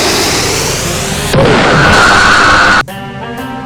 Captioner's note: sub-space explosion